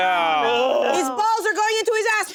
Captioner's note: sighs